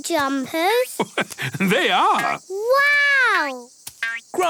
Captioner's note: laugh